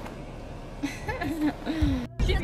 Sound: laughing

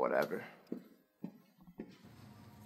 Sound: footsteps

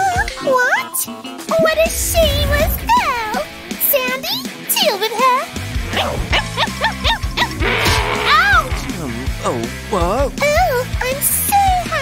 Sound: grumbles

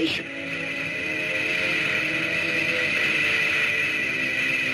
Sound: Gammera whirring

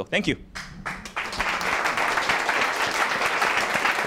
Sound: applause

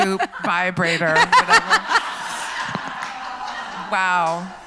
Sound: laughs

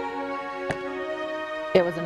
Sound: orchestral music; bat strikes ball

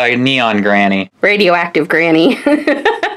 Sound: laughs

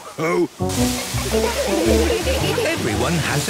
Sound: laughter

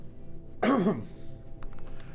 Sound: cough

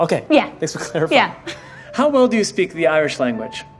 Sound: laugh

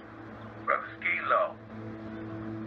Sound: speaker phone

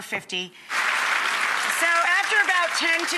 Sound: audience applauding

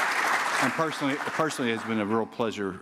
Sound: applause

